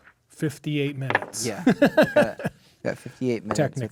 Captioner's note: laughing